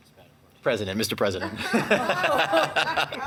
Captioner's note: laughs